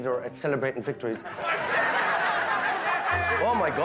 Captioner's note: guests laughing